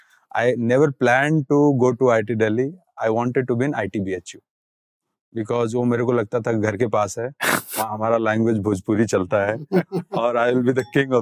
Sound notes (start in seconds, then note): 5.2 speaking in Hindi